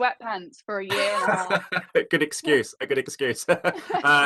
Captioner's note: laughs